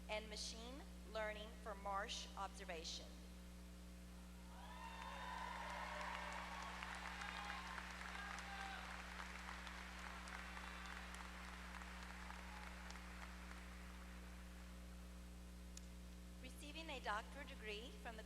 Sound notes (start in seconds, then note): 4.6 applause